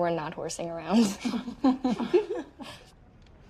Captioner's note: laughing